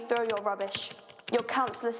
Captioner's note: typing